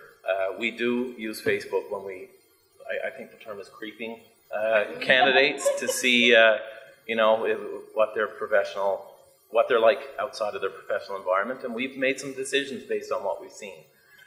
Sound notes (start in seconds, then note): 5.6 audience laughs